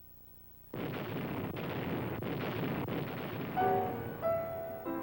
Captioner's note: cannons blasting; gentle piano music